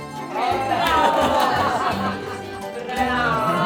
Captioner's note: people cheering